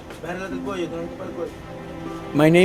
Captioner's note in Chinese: 西班牙文